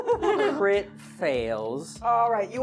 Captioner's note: laughing